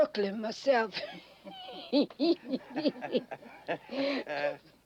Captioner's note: laughing